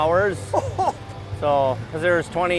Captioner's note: laughing